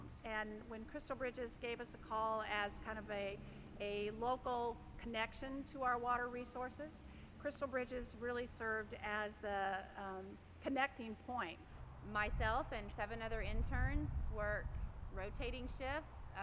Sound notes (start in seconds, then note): none